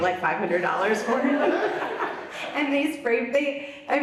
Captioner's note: laughs